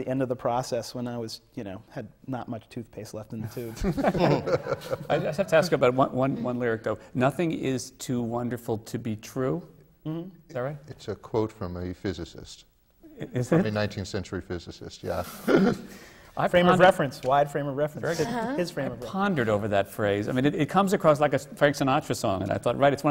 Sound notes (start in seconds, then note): 3.6 laughter